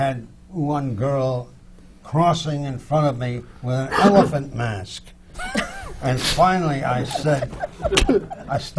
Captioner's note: laughter from the panel